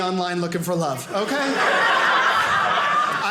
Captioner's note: audience laughing